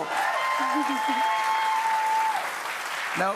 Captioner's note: cheers and applause